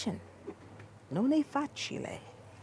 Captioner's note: speaking italian